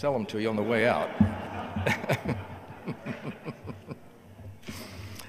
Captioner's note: audience laughing